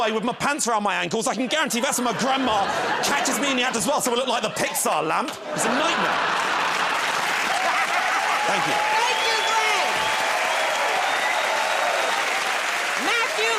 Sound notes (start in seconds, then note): 7.0 laughter and applause; 10.8 cheers and applause